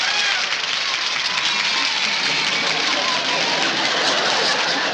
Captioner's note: kids applauding and cheering